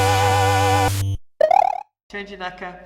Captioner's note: Mario Noise